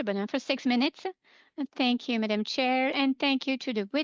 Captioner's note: speaking French